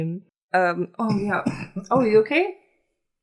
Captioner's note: coughs